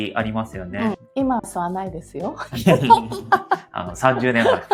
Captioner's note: laughs